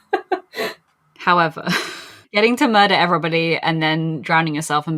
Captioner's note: laughs